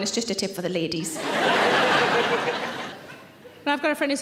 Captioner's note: audience laughing